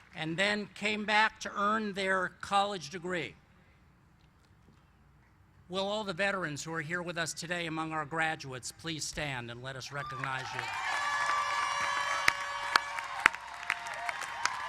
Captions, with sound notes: AND THEN CAME BACK TO EARN THEIR COLLEGE DEGREE. WILL ALL THE VETERANS WHO ARE HERE WITH US TODAY AMONG OUR GRADUATES, PLEASE STAND AND LET US RECOGNIZE YOU. [APPLAUSE]